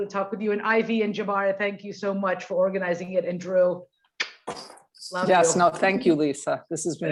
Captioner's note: blows kiss